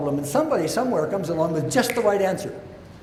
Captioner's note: fingers snap